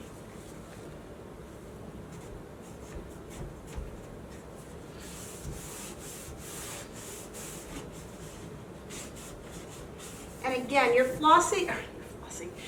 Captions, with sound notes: (sock rubbing) And again, you're flossing...